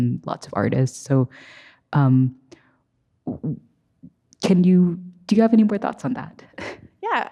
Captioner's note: laughs